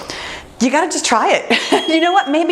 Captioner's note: bell rings